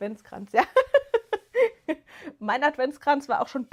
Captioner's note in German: gelächter